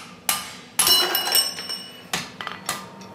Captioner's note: clanking